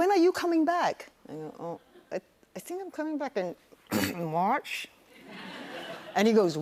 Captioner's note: clears throat